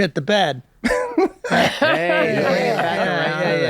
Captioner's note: laughing